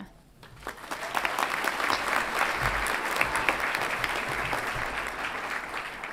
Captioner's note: audience applauds and cheers